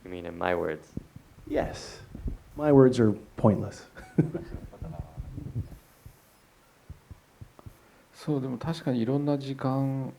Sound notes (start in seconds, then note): 3.8 laughs